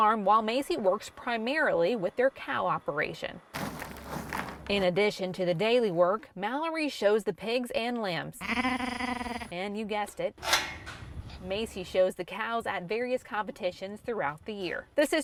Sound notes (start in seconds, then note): 3.6 sound of stirring feed; 8.4 lamb sounds